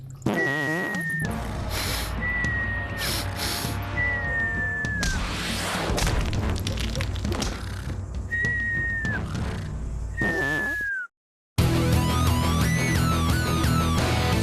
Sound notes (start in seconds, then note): 1.1 sniffing